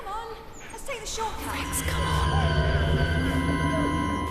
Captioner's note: whispering